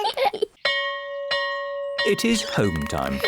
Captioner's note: all giggle; bell rings